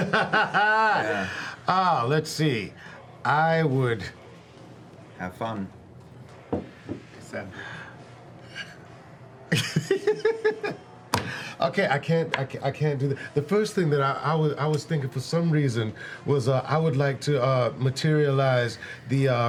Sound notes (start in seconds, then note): 6.5 laughs